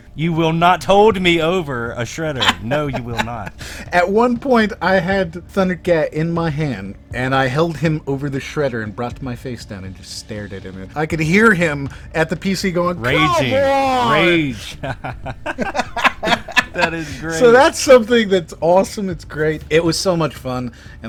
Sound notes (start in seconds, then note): 0.0 laughs; 15.1 laughter